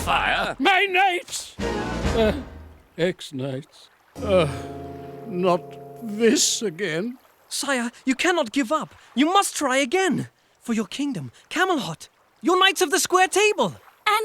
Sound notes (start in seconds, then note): 4.2 sighing